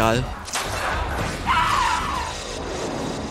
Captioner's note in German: Schuss, Schrei